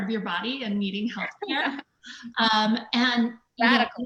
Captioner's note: laughs